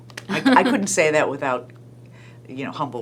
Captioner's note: laughing